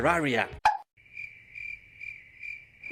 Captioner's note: crickets chirping